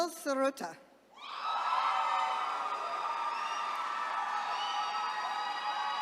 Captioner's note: attendees cheering